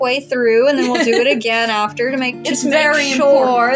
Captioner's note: romantic Music; laugh